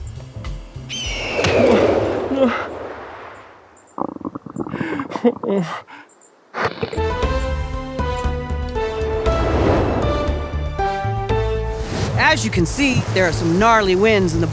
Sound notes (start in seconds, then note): 0.9 eagle screaches, swoops; 4.0 tummy rumbles, sobs